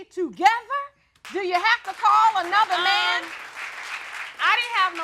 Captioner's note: audience clapping